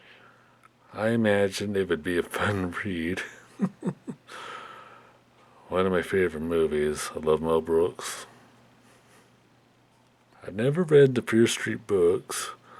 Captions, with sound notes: I imagine it would be a fun read. (Chuckles) One of my favorite movies. I love Mel Brooks. I never read the Fear Street books,